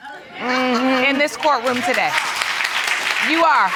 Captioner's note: audience laughing and applauding